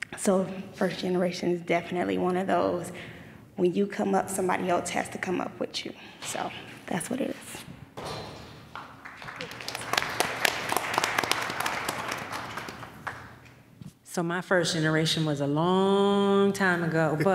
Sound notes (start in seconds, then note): 8.7 applause